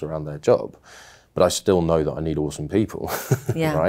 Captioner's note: laughing